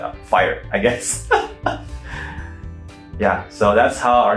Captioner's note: laughing